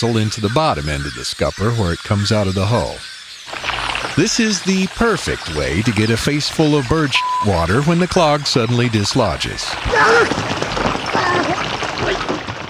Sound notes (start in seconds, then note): 2.6 SFX: Hose water running; 9.8 SFX: "Arrrrgh!"